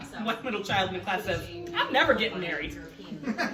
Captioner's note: laughs